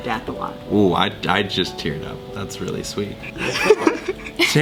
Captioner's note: laugh; laughs